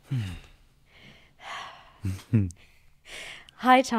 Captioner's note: breathing deeply